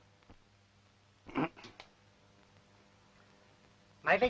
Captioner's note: clearing throat